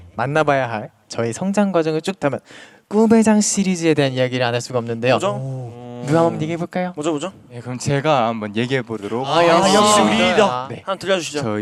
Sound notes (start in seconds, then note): none